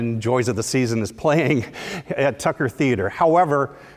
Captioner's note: laugh